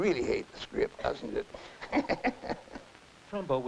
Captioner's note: laughs